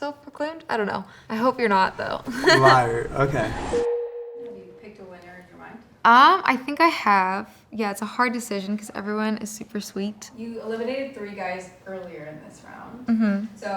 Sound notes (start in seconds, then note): 2.0 laughing; 4.0 bell dinging